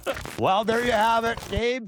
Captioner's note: laughter